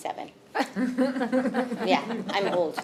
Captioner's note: audience laughing